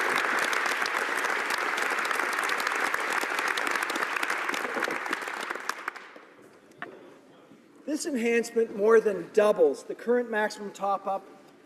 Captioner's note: applause